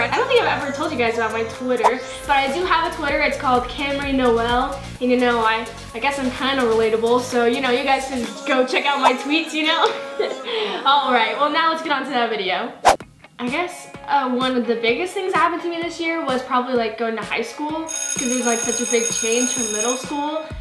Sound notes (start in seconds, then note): 9.8 laughs